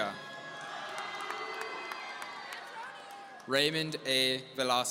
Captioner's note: audience cheering